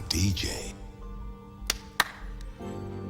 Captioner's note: Harry claps